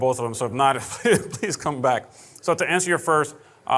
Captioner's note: laughing